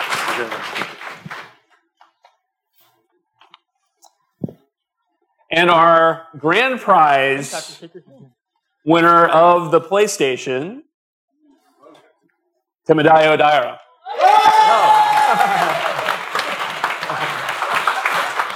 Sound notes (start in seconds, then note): 2.8 speaking japanese; 8.0 speaking japanese; 14.0 cheers; 14.2 applause